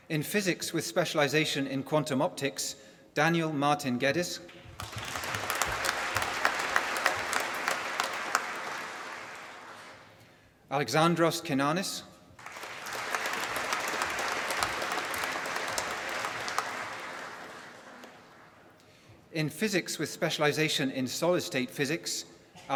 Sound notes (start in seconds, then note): 4.5 applause; 12.4 applause